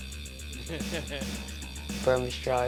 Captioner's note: laughs